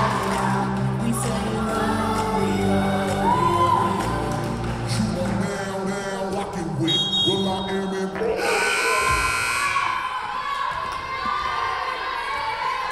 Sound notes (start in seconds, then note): 6.8 whistle blowing; 8.4 buzzer buzzing